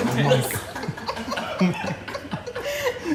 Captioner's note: laughing